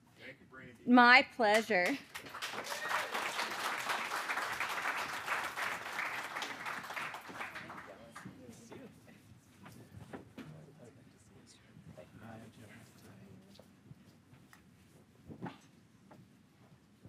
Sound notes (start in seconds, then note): 1.5 audience applauding